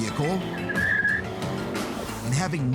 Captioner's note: tires screeching